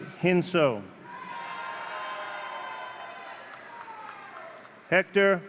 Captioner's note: audience cheering